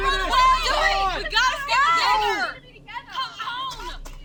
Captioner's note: shouting